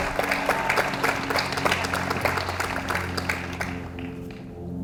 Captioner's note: audience applauds